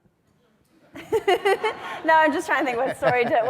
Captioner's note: audience laughs; laughs